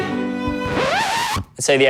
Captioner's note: record scratching